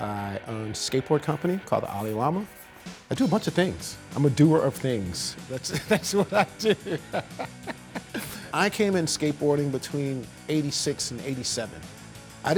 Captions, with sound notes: I own skateboard company called Ollie Llama. I do a bunch of things. I'm a doer of things. That's what I do. [laughs] I came in skateboarding between '86 and '87.